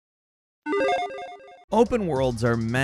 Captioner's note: electronic chiming